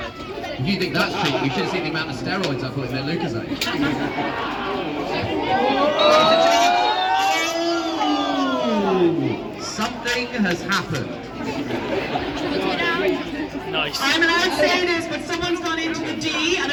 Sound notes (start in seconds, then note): 3.6 laughter; 10.9 crowd laughter